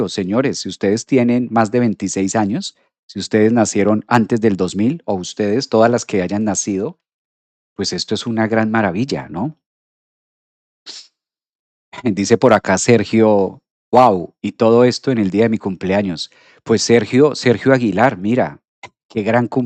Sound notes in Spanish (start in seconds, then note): 10.8 resoplido